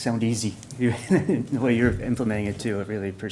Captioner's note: chuckles